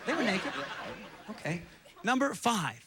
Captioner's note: audience laughing